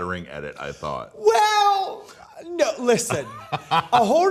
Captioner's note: laughs